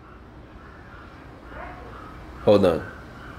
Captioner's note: chattering